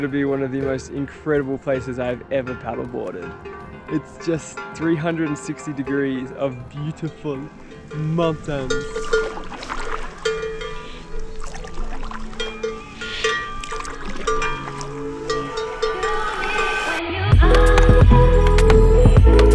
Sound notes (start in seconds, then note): 7.8 paddling in water; 10.8 upbeat music plays